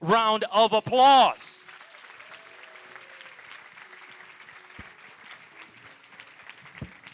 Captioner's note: applause